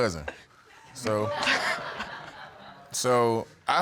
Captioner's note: laughing